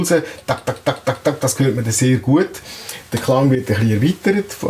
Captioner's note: makes rhythmic impulses